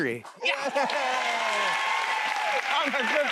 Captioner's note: cheers and applause